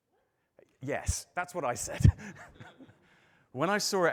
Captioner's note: laughs